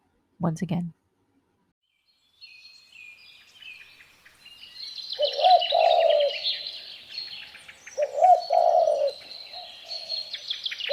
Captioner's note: bird song sounds